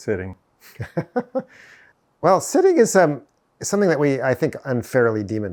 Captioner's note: chuckles